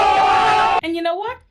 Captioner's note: screaming